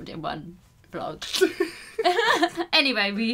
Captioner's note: giggles